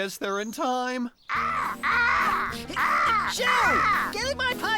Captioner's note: cawing